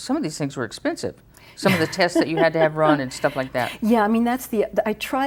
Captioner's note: laughs